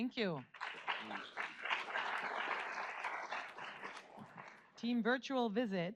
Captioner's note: audience applauds